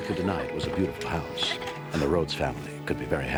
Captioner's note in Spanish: riendo